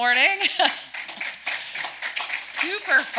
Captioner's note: audience applause